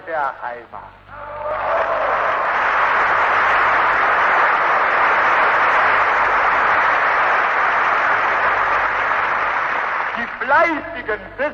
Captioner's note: applause